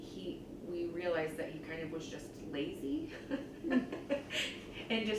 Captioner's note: laughs